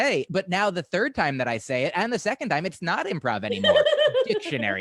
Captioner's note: laughter